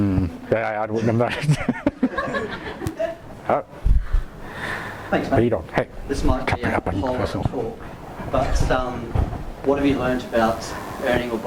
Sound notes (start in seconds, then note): 1.0 laughs; 5.1 voiceover